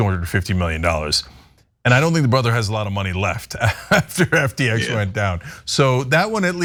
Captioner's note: laugh